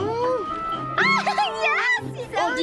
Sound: giggles

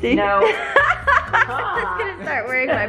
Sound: laughing

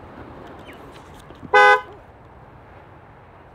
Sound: honk

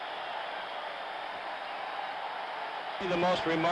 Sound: cheering

